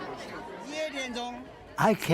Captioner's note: speaking in foreign language